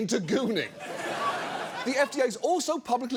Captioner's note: audience laughs